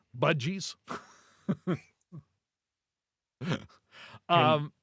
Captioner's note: laughing